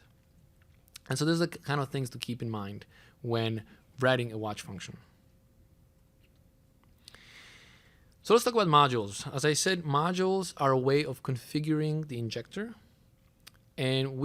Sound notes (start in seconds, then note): 5.3 pause